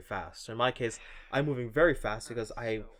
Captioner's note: sighs